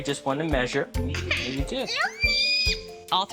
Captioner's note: kid cries